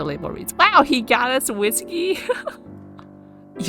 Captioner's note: laughs